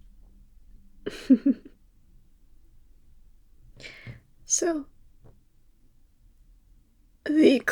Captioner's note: laugh